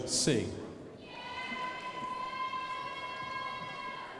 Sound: crowd applauding

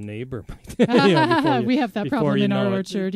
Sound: laughs

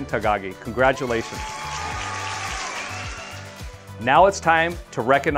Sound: crowd cheers and applauds

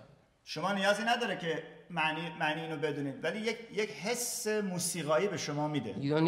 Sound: speaking in farsi

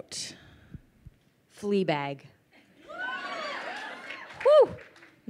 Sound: crowd cheers

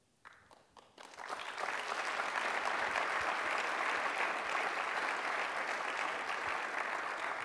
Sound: applause

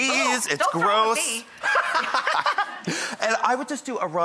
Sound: both laughing

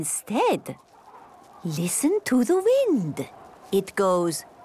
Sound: wind blowing

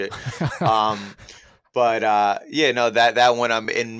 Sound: chuckles

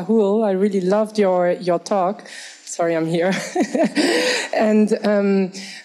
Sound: chuckles

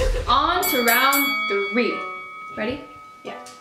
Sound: dinging

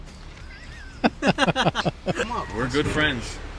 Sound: laugh

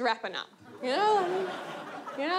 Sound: audience laughs

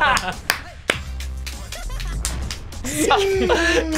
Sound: applauds

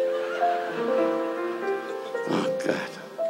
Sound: audience laughs

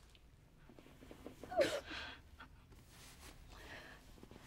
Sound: mother cries softly

